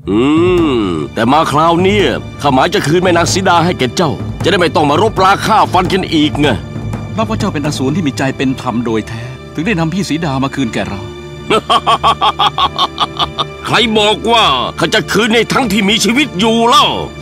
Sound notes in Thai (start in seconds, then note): 11.5 หัวเราะ